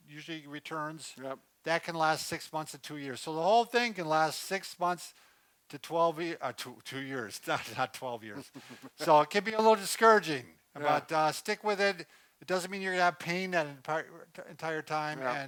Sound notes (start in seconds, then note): 8.3 laughs